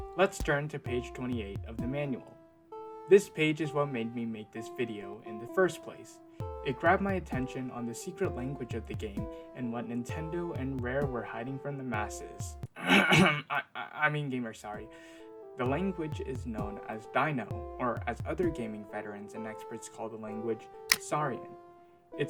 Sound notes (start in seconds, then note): 12.8 clears Throat